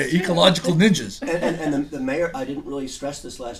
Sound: voiceover

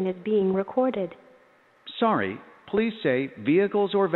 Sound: male Robotic Voice

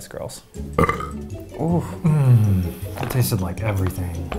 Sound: burps

